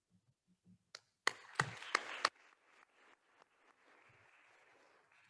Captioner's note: attendees applauding